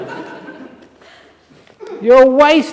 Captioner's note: laughter